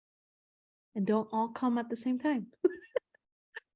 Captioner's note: chuckles